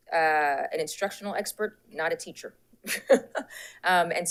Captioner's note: laughs